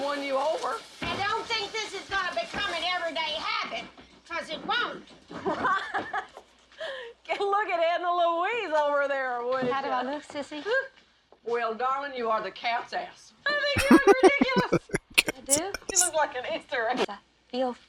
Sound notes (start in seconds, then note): 13.8 laughing